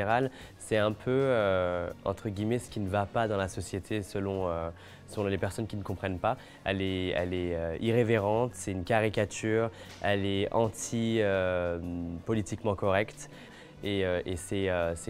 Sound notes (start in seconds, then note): 0.7 speaking French